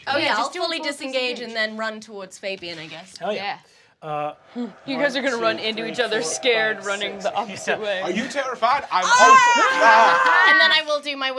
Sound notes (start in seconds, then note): 9.0 screams